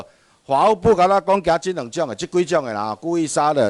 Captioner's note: minnan dialect